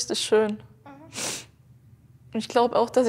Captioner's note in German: Schniefen